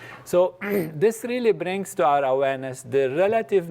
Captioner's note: cough